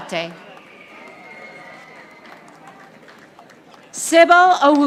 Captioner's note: audience applauding